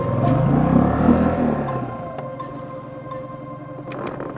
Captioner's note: boat engine rumbling